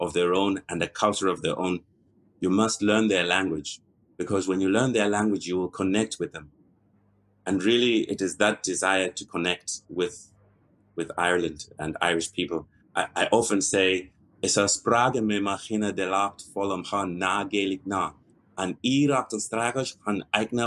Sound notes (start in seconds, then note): 13.6 in irish